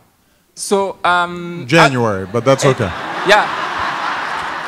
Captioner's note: laughing